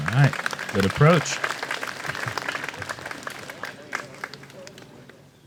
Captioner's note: applause